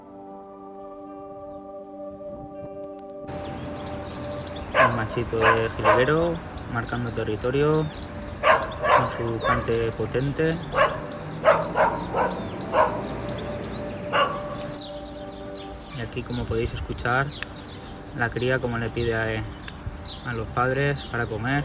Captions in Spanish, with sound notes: el machito de jilguero marcando territorio con su cante potente [Jilguero Cantando] y como podéis escuchar la cría como le pide a los padres para comer